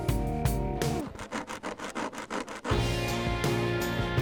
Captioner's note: nails scratching; mellow electric guitar music